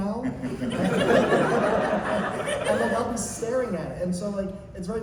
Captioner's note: laughter